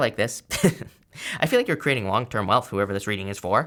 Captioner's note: speaker laughing